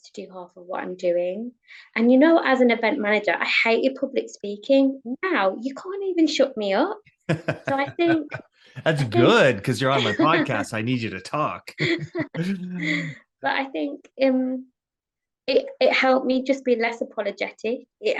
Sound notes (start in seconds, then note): 7.3 laughing; 11.6 both chuckle; 11.7 laughs